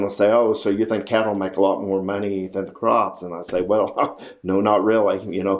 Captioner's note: laughs